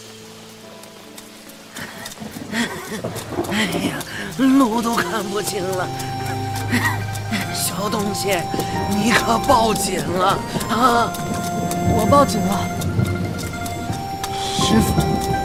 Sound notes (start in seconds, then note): 3.6 panting